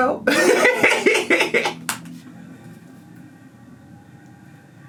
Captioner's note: laughs